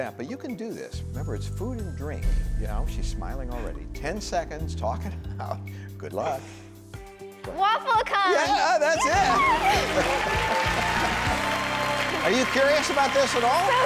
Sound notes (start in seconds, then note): 9.0 audience applauds; 9.0 screams